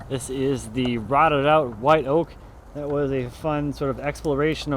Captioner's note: none